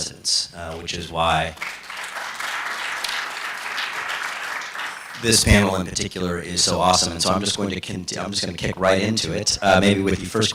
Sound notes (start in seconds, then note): 1.5 applause